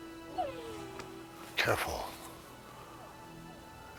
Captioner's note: dog whines